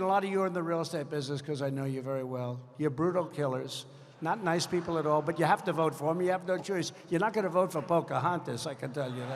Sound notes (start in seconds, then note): 4.4 laughter